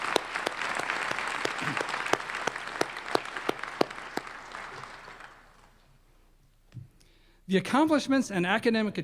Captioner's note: applause